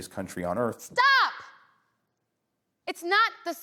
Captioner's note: yelling